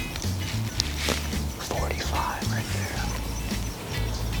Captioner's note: whispering